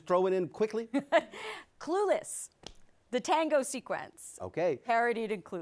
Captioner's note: laughs